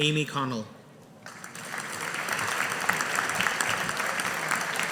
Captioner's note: audience applauding